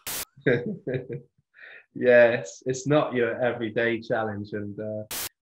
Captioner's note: laughs